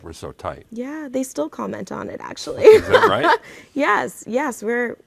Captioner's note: laughs